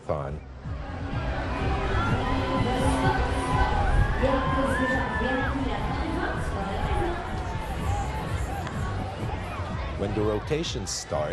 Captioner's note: crowd Noise